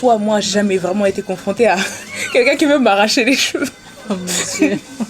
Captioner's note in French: rires